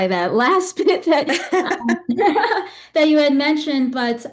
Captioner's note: laughing